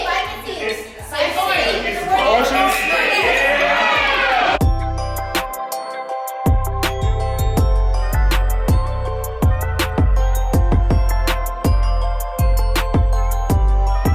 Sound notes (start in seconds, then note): 0.0 guests chatter; 3.4 guests cheering; 5.1 gentle joyful music